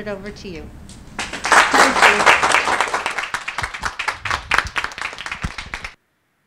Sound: applause

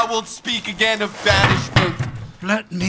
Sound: chair toppling

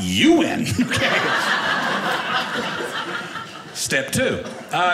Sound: audience laughing

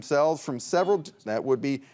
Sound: buzzer beeps

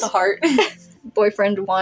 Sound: chuckle; laugh

